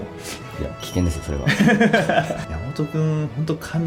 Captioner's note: laughs